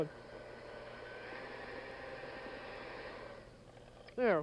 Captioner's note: whirs rapidly, stops